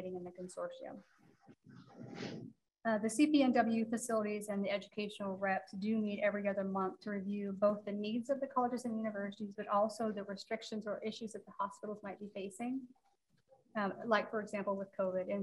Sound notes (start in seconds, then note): none